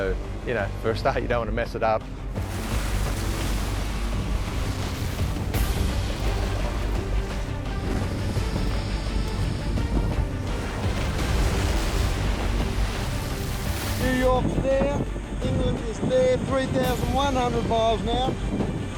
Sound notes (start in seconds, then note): 2.8 dramatic music; 2.8 wake hissing